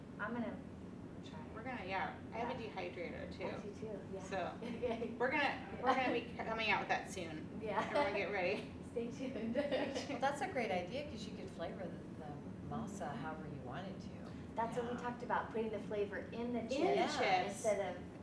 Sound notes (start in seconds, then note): 9.6 laughs